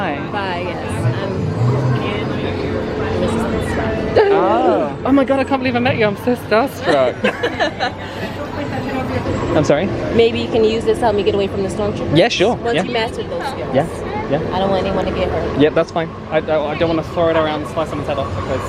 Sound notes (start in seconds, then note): 3.9 gasp; 6.9 all laugh